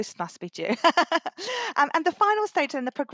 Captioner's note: laughs